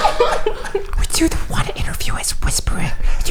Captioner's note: laughing